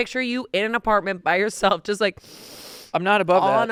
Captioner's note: sniffs